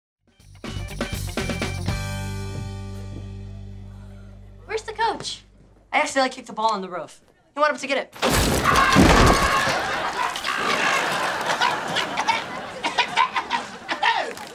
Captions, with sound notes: Where's the coach? I accidentally kicked a ball onto the roof. We went up to get it. [screaming] [coughing]